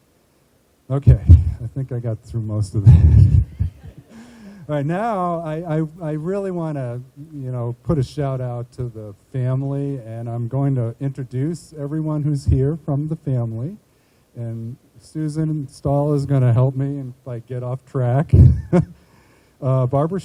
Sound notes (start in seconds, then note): 2.8 chuckling; 18.3 chuckling